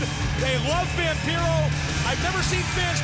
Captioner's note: crowd cheering